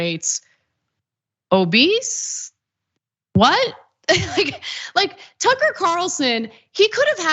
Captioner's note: laugh